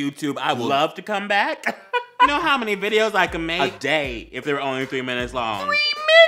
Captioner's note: more gay laughter